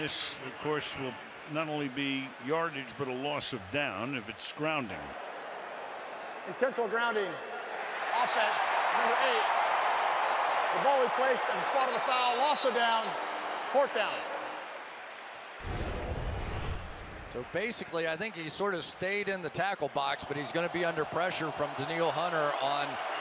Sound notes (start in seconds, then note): 8.0 cheering; 15.6 swoosh